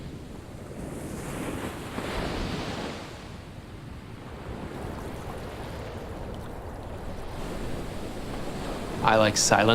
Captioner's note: waves crashing